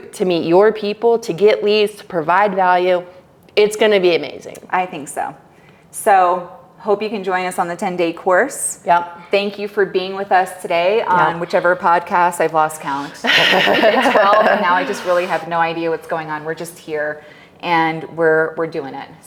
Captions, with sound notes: to meet your people, to get leads, to provide value, it's gonna be amazing. - I think so. So hope you can join us on the 10 day course. Thank you for being with us today on whichever podcast I've lost count. (laughing) Now I just really have no idea what's going on. We're just here and we're doing it.